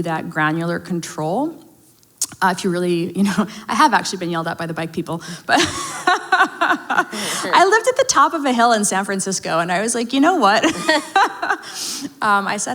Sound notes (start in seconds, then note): 5.5 both laugh; 10.6 both laugh